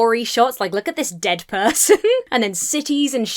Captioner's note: chuckles